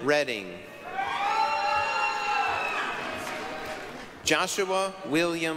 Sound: applause, cheering

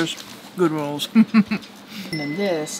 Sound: laughs

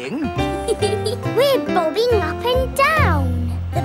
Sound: giggles

